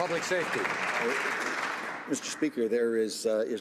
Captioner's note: some Applause